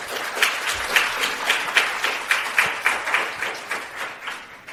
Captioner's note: audience clapping